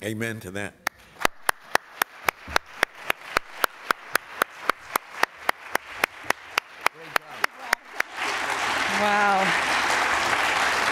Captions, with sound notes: - Amen to that. [APPLAUSE] - Wow.